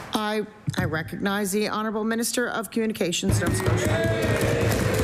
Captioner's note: applause